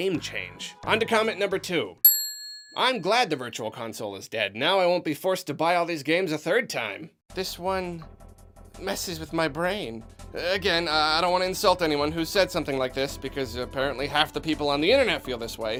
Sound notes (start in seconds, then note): 2.0 another Ding